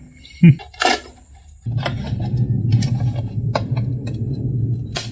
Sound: laughs; wood crackling

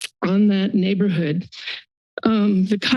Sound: none

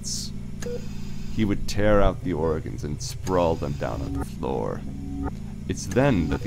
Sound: mechanical ambiance

